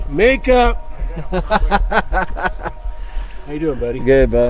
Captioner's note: laughs